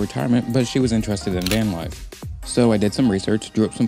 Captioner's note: camera shutter